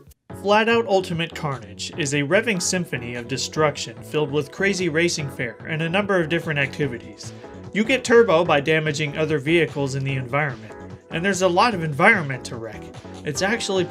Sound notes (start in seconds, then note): none